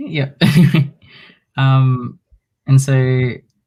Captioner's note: chuckles